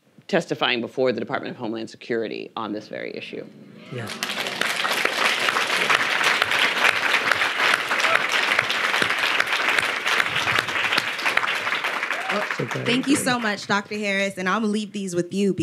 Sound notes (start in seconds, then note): 3.9 audience applauding